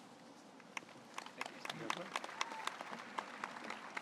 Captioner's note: audience applauds